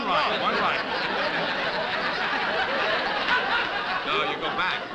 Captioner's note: laughter